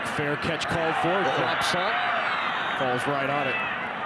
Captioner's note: referee blows whistle